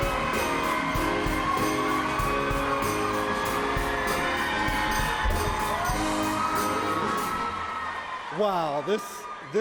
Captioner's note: cheers and applause